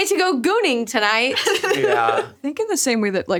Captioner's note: laughs